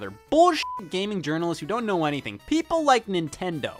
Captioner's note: beep